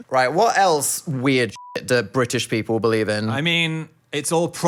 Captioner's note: beep